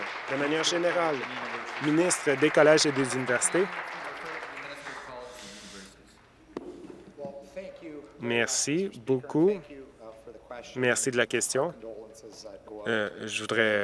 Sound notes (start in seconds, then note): 0.0 applause